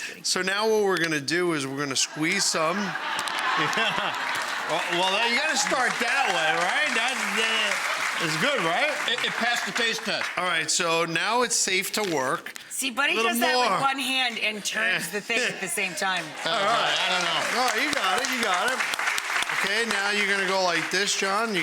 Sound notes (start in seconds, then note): 3.0 audience laughing; 16.1 audience applauding